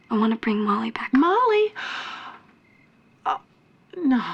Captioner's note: gasps